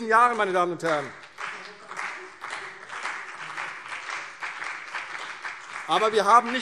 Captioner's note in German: Beifall CDU und BÜNDNIS 90/DIE GRÜNEN